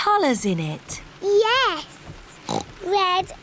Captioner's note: oinks